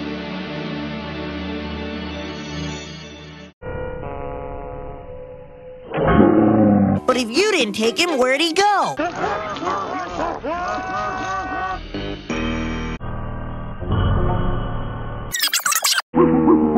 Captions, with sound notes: But if you didn't take him, where'd he go? [Laughing] You lost my speed-a-mint gum?